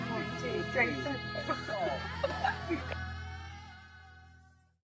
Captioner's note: laughter